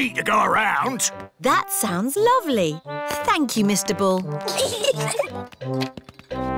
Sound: peppa and george giggle

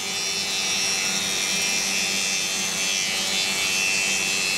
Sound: loud sawing noise

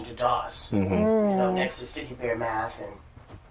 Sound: sounds of agreement

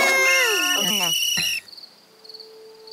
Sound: whistles

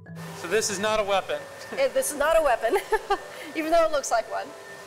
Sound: laughs

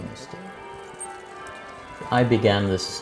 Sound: bells ringing

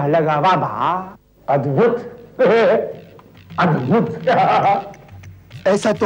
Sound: chuckles

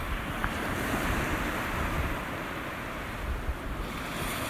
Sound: sea crashes

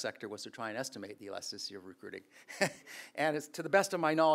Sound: chuckles

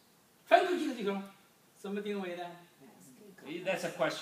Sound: speaking foreign language

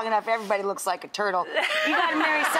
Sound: Katherine and audience laugh

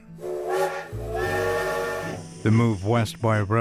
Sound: train engine

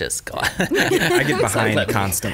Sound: laughing

